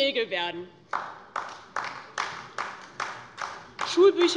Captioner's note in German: Beifall DIE LINKE